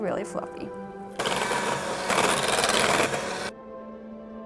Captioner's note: mixer whirring